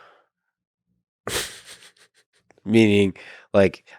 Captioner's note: Lex laughs